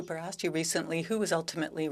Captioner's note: speaking French